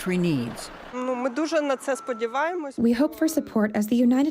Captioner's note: speaking in foreign language